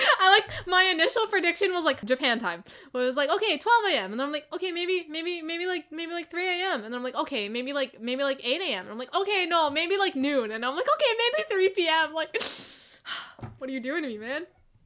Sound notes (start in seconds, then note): 12.5 inhale; 13.0 sigh